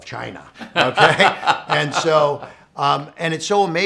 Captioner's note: laughing